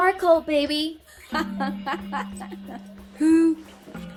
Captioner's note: both laughing